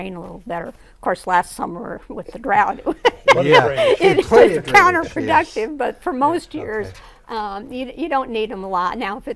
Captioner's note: laughing